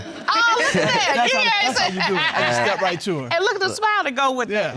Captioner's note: judge laughing